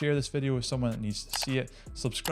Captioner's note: mouse clicking